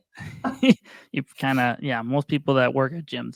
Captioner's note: laughing